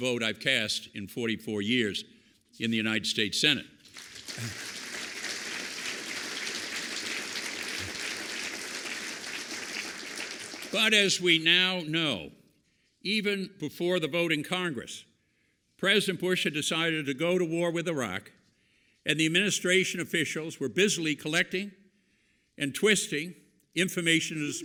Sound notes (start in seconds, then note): 3.8 applause